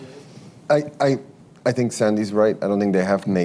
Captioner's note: off mic